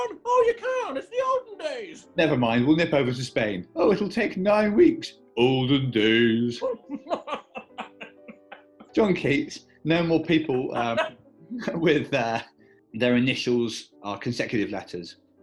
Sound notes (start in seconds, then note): 0.1 old, posh voice; 5.2 deep, posh voice; 6.8 laughter; 9.9 laughing